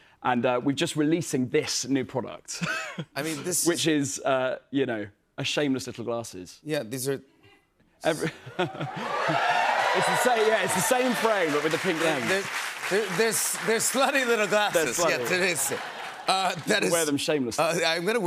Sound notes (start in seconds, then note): 8.6 cheers and applause; 16.0 laughter